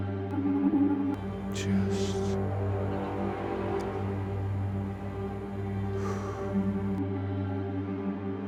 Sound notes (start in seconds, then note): 4.9 sighs